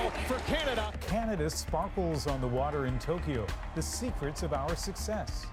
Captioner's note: cheers and Applause